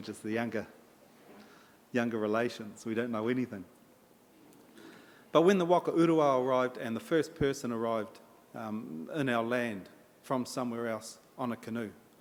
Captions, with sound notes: We're just the younger, younger relation. We don't know anything. But when the [in Maori] and the first person arrived, um, in our land from somewhere else on a canoe,